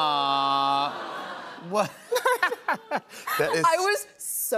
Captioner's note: both laugh